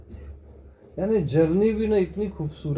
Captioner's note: none